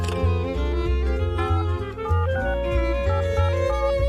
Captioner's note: touch tone dial